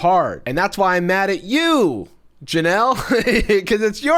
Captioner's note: laughs